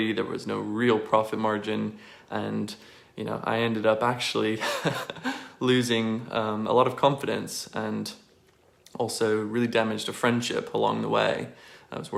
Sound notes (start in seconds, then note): 4.6 laughs